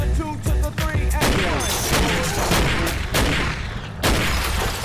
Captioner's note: gunshot